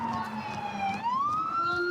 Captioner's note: sirens